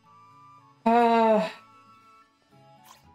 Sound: disgruntled yet resigned sigh

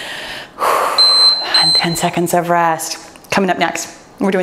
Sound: timer beeps

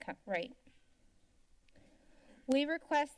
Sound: silence

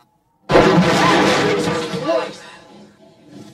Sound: clattering; yelps

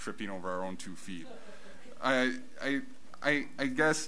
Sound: audience laughs

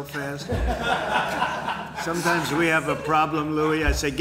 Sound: laughter

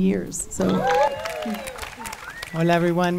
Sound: audience cheering

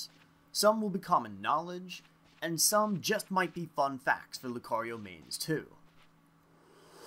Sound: breath

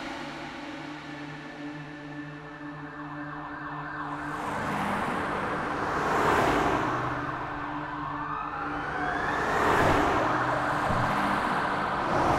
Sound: police Sirens

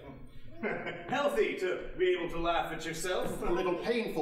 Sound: laughing

